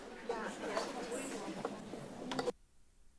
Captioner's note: indistinct chatter